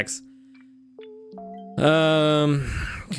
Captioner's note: sighs